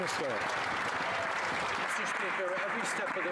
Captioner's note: some Applause